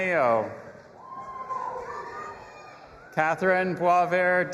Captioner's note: audience applauding and cheering